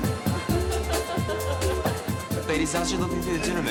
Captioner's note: laughing